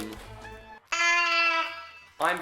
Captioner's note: party horn